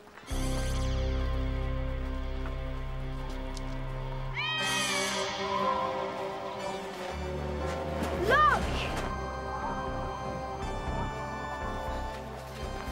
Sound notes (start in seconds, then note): 0.3 ominous tones; 4.3 meowing